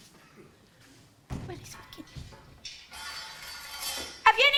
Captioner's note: George noisily searches for his key